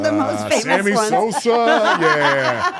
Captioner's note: laugh